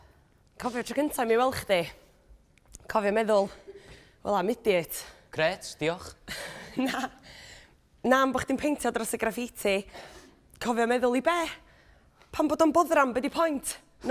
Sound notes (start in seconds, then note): 6.6 laughs